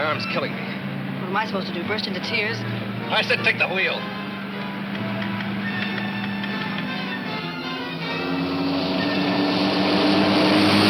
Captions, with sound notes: - What am I supposed to do, burst into tears? - I said take the wheel! (car roaring)